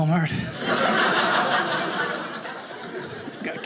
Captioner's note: audience laughing